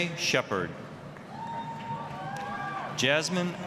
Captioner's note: applause, cheering